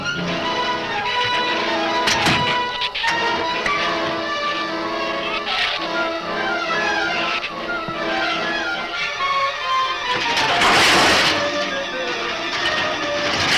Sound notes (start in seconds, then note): 0.1 tense music continues; 5.6 shrews snarl; 10.3 objects clatter